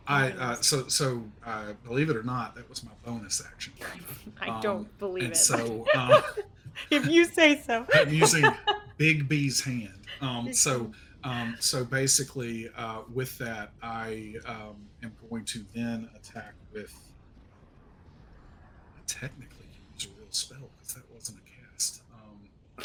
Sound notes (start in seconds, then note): 8.1 laughs